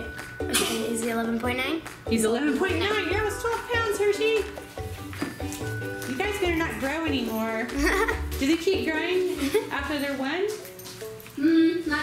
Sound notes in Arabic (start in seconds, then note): 7.7 يضحك